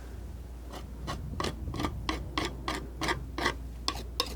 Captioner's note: scratching